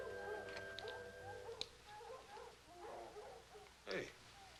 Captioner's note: dogs barking in distance